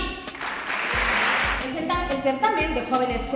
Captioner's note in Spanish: Aplausos